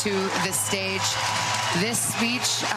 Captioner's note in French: applause